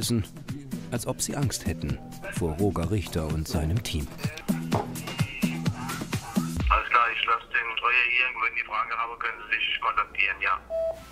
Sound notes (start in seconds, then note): 4.2 radio